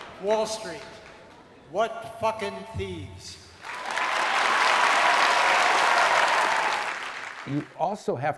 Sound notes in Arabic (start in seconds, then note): 3.6 هتاف الجمهور